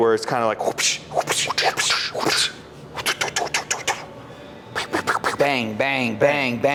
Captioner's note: vocalizing repetitive whooshing